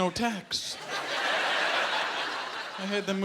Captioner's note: laughter